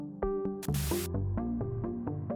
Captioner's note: Glitch